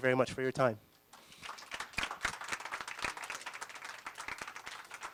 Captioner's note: applause